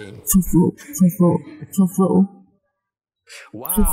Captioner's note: laughter